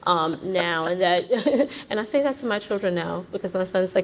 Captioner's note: laughs